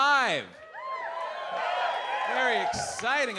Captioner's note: audience cheers